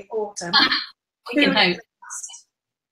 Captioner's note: laughs